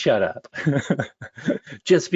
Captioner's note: laughs